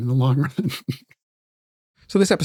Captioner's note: laughing